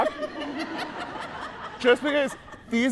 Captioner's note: audience laughing